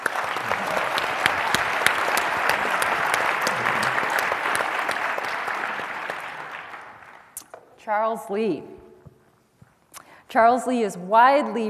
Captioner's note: applause